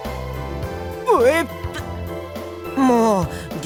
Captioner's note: buuuuurp